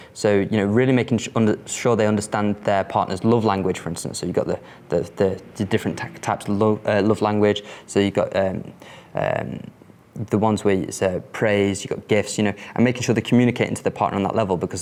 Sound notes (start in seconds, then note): none